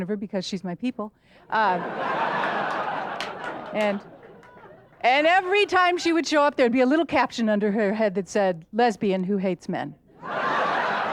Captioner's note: audience laughter; audience laughter